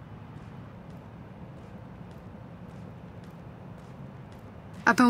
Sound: city ambience

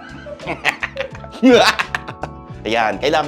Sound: laughing menacingly

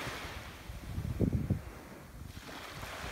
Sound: ocean waves rolling; wind blowing; ocean waves rolling

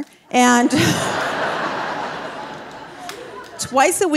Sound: audience laughing

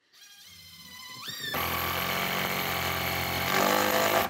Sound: drill whirring

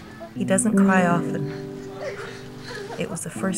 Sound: weeping

